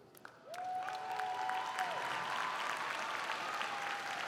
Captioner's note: all clapping